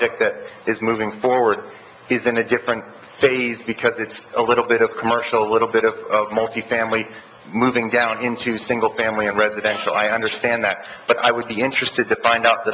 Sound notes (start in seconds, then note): none